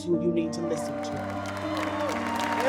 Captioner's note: applause